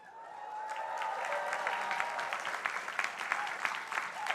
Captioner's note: crowd applauding